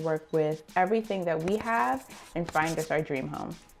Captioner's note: pencil scratching